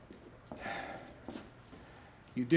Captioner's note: sighs